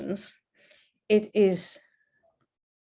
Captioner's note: none